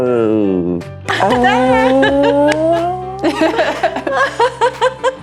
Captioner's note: group laughing